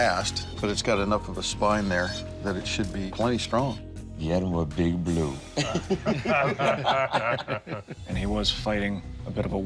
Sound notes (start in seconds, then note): 5.5 laughter